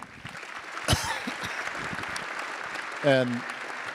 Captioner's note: attendees applauding